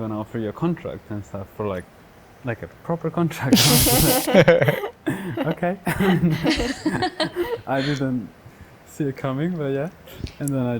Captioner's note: laughing